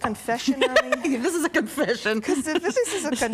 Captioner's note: laughing